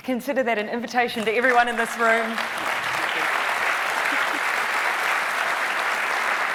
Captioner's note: audience applauding